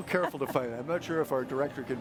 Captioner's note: chuckles